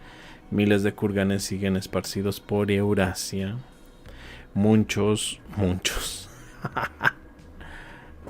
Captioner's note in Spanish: risas